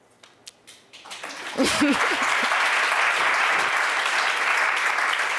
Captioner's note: applause